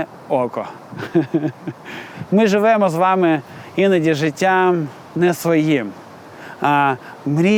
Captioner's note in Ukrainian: сміх